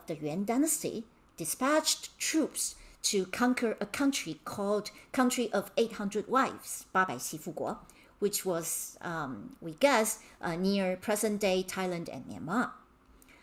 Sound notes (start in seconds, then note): 7.3 speaking in Mandarin